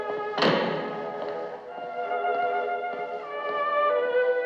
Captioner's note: door Closes